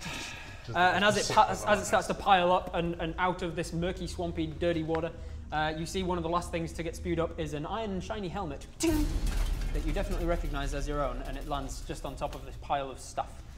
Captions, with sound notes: and as it starts to pile up and out of this murky, swampy, dirty water you see one of the last things to get spewed up is an iron shiny helmet *ting* that you definitely recognise as your own and it lands just on top of the pile of stuff